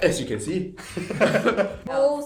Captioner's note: laughter